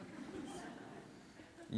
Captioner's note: laughter